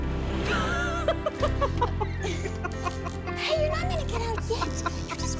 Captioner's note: laughing